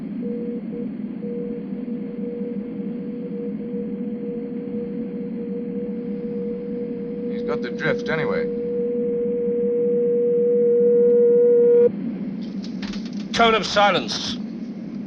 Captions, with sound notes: He's got the drift anyway. (machine beeping) - Cone of silence.